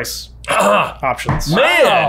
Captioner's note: grunts